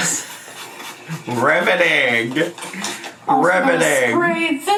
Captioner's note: laughs